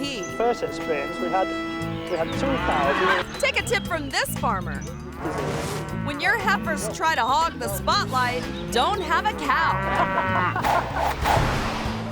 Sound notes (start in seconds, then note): 0.7 cow lowing; 4.9 cow lowing; 9.1 cow lowing; 10.7 graphics whooshing